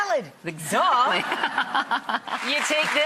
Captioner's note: audience laughs; audience applause